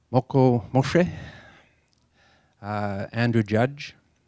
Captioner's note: native tongue spoken